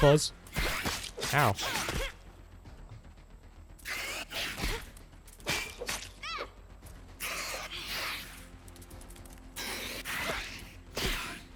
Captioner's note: spider screeching, combat sounds, the occasional 'ow'